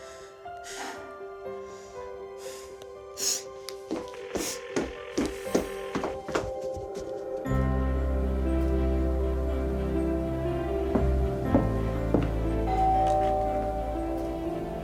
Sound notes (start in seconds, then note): 4.4 phone ringing; 12.6 door bell